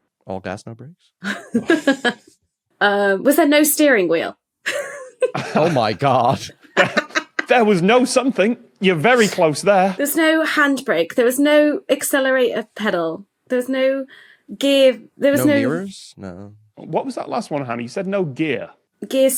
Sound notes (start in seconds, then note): 1.2 snicker; 4.7 laugh